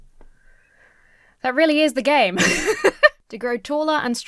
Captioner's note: laughs